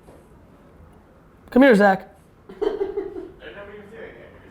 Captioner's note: laughing